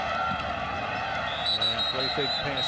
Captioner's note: whistle blows